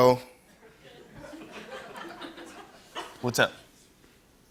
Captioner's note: laughter